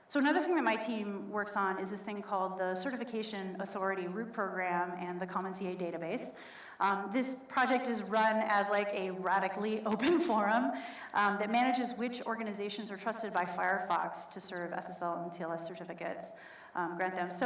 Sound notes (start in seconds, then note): none